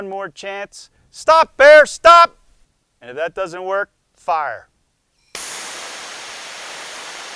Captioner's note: shouts; whooshing sound